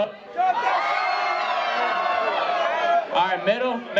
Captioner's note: crowd cheers